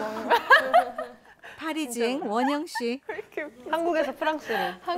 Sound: laughing at her own joke

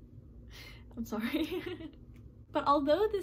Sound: laughs

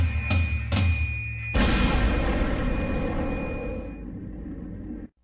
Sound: explosion

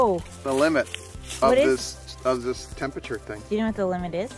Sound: leaves crunch

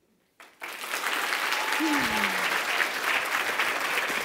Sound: audience applauding

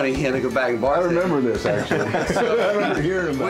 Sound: laughs

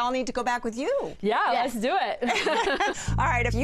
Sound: laughter

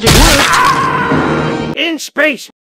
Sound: more pained scream from skin ripping off

